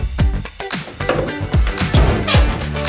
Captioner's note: upbeat music; banging; upbeat music